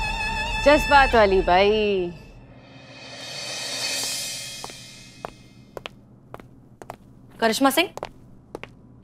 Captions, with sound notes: Emotional woman! [footsteps approaching] Karishma Singh!